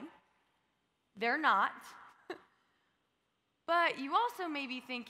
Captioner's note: laughs